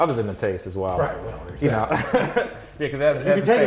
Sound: laughs

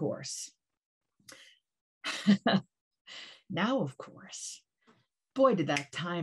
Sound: laughter

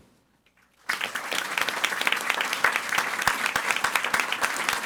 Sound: audience applauding

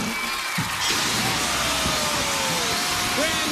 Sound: alarm sounding

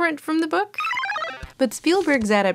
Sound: video game beeping

